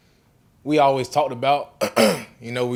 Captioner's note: clears throat